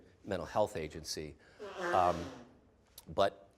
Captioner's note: someone blowing nose loudly